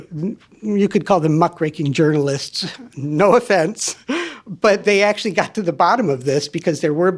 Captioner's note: laughs